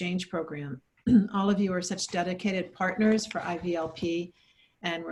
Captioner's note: clears throat